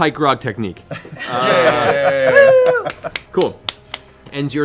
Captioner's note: laughter